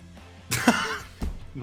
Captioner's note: laughs